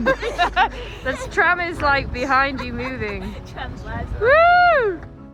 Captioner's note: chuckles